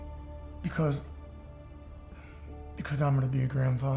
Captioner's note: says emotionally